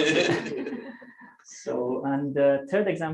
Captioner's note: laughter